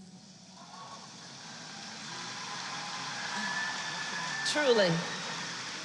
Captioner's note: applause